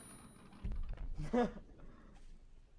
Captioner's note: chuckles